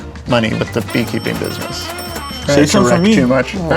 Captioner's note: cash register dinging